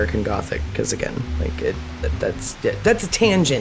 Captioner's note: fumbling